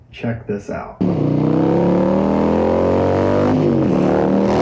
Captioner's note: engine roaring